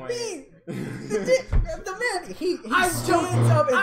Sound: indignant sputtering

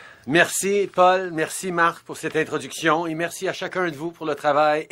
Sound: speaking French

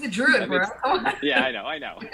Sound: giggles; laughs

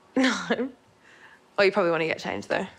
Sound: laughs

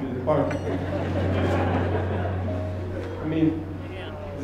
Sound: laughter

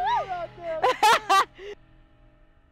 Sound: laughter

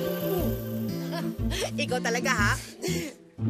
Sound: chuckles

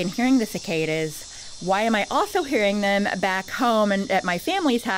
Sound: add full tinnitus sounds, nature sounds fade out

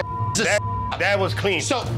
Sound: beep

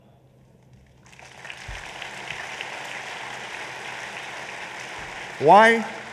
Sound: applause

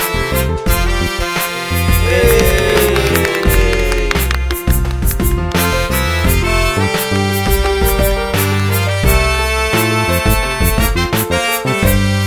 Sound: applause

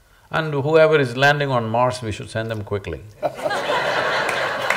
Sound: laughter

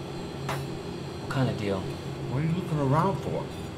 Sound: whispers

